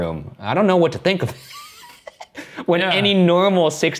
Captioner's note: laughing